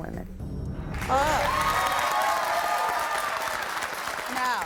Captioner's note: crowd cheering